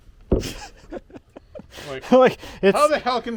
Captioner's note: laughing